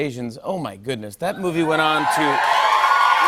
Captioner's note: cheers and applause